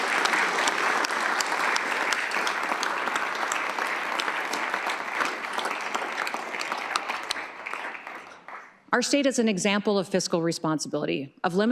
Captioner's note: applause